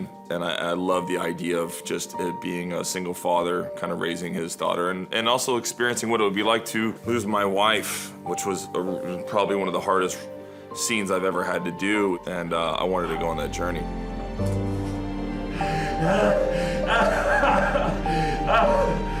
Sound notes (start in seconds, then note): 13.9 somber music; 15.6 Ray cries